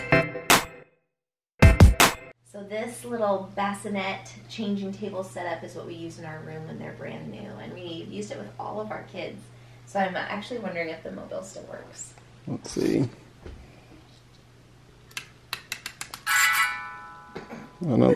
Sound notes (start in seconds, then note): 15.2 clicking